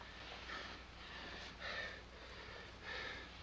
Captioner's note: panting